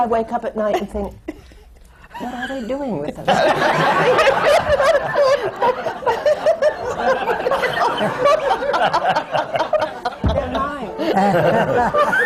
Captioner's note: laughter; laughter